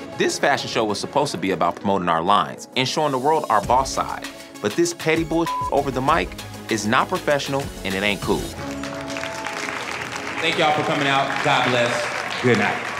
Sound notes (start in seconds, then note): 8.5 applause